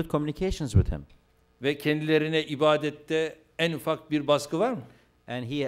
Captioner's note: non-english speech